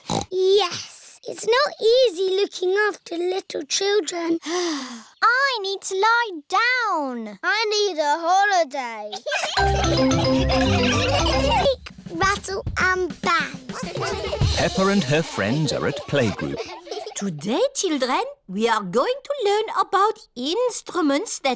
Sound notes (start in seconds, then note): 4.8 sighs; 9.2 all laughing